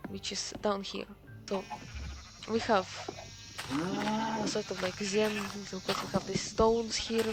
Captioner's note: moooooo